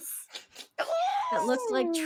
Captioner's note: snickering